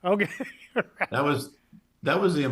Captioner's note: laughs